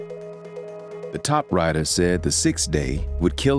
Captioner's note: voiceover